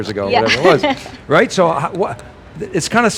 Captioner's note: laughing